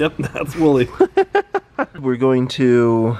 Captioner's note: laughs